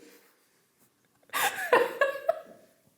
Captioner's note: laughs